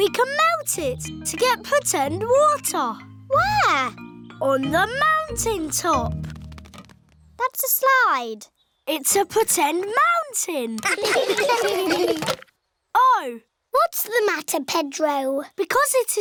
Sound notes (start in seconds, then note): 10.8 laughter